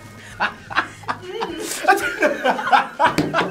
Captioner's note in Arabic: كلاهما يضحك